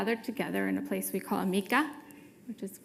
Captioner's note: speaking foreign language